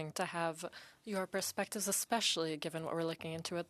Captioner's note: speaking French